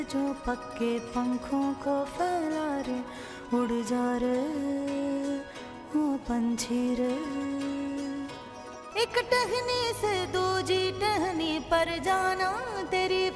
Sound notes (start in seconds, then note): none